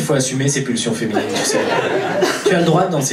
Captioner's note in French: rires public